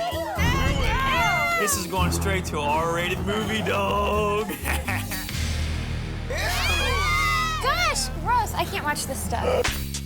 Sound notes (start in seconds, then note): 5.6 laughs; 6.3 everyone screams